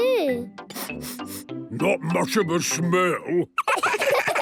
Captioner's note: sniffing; sniffs